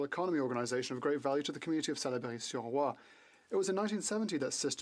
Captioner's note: speaking French